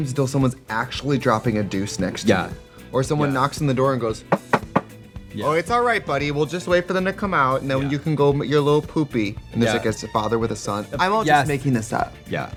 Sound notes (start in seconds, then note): 4.3 knocking